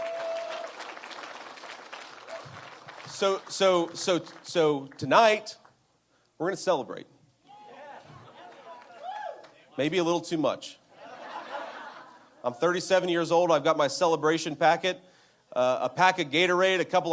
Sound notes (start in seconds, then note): 0.0 appuse